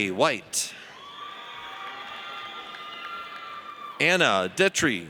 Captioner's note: audience cheers